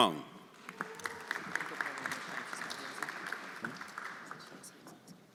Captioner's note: everyone applauding